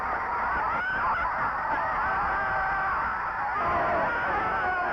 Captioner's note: crowd shouting